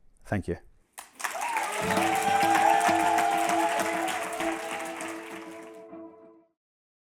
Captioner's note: applause and music playing